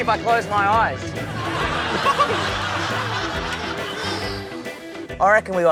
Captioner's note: laughter